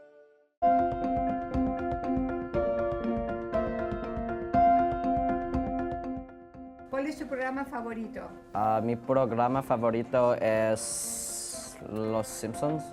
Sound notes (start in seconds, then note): 0.7 pleasant music; 7.0 speaking foreign language